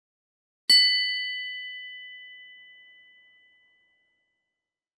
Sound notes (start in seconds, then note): 0.7 bell rings